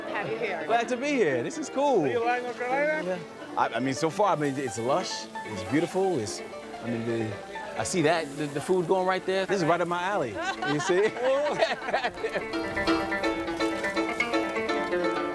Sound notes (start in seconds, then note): 10.2 all laugh